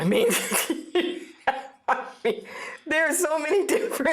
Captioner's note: laughing